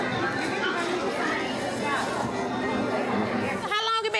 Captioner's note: chatter